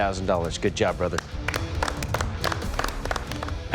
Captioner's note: clapping